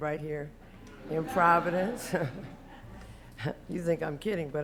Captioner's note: laughter